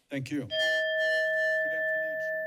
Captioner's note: bell rings